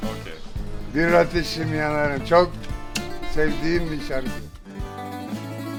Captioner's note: speaking German; speaking Turkish